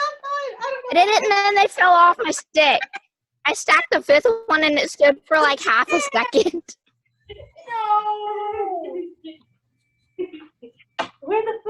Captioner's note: excited Conversation